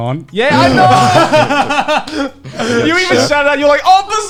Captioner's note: laughing